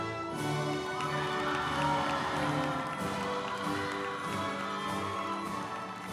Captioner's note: group applauding; uplifting music